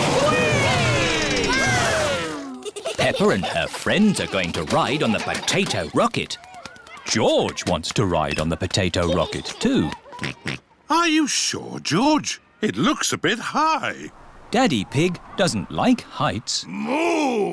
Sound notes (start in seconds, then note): 10.6 oinks